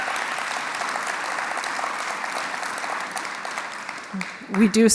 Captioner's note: applause